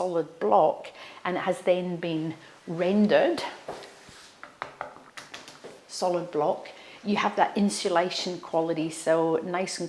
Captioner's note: tapping sound